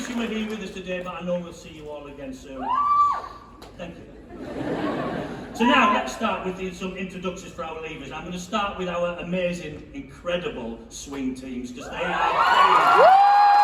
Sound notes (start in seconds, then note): 2.6 solitary whoop; 4.1 laughter; 11.9 cheering